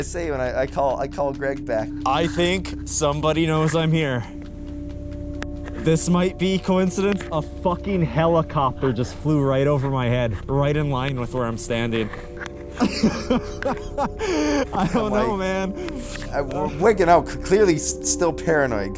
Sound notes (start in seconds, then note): 12.3 laughing